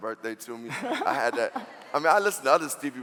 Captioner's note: laughing